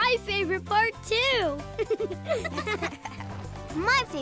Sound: laughing

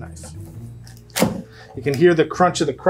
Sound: knife thudding

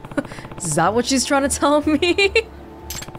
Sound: chuckles

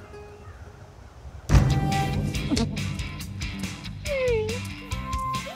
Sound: boom from garbage can; upbeat music; moaning/crying

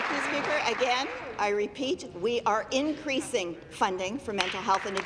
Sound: applause

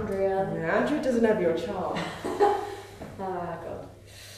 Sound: they both laugh

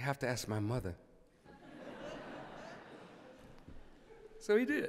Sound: laughter

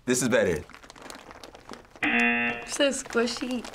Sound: buzzer

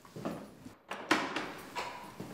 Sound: door sounds

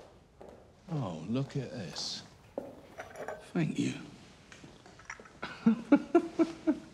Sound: footsteps plodding; laughs

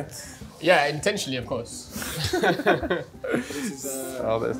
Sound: both laughing

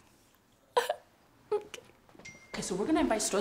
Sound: speaks spanish; cough

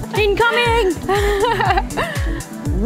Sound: laughter

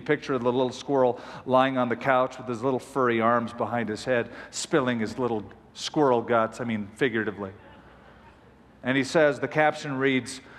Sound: laughter

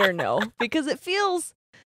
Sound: laughs

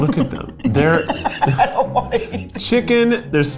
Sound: laughing

